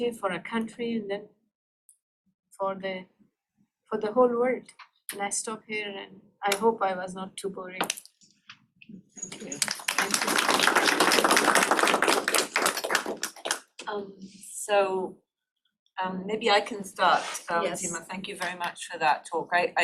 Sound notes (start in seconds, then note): 11.3 applause